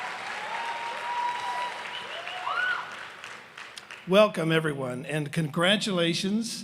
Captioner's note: cheers and applause